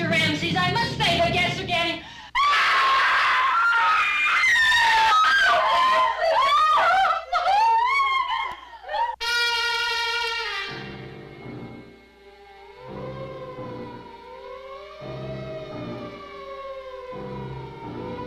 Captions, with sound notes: - Oh, Mr. Ramses, I must say the guests again. (screams) (suspenseful music) (sirens wailing)